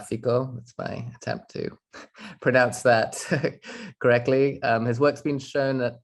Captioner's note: chuckles